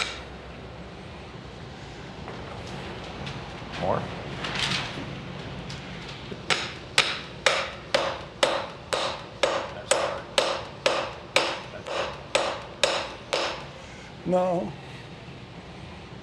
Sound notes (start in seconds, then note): 7.4 hammer taps